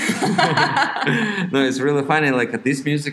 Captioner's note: both laugh